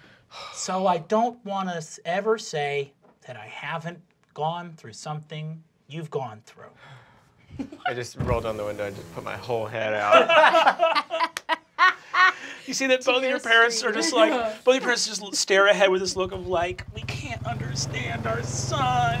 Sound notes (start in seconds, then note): 7.5 giggling; 10.0 laughter